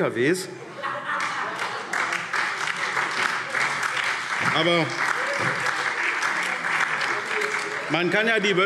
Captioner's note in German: Heiterkeit und Beifall SPD, DIE LINKE und Freie Demokraten